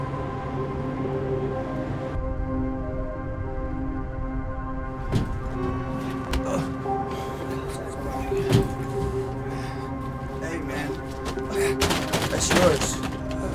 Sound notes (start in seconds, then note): 0.2 unsettling music; 6.4 Flavio grunts; 13.3 Flavio groaning